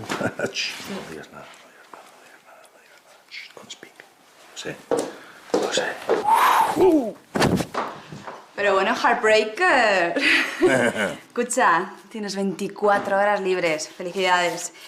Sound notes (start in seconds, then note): 6.2 excited shout; 10.2 laughs